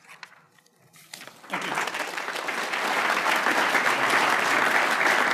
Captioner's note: crowd applauding